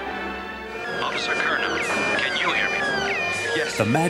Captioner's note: alarms going off